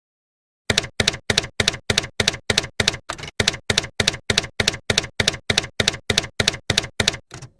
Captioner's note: typewriter keys clacking